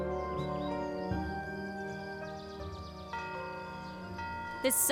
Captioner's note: distant church bell